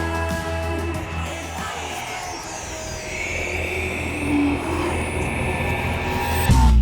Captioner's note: music playing on the radio; the strange distortion returns and builds intensity